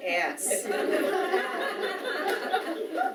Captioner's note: audience Laughing